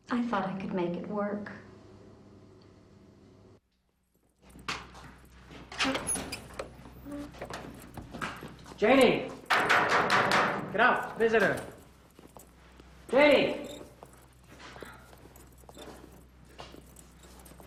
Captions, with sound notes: - I thought I could make it work. (door opening) - Janie. (knocks) Get up, visitor. Janie.